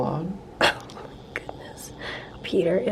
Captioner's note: chuckles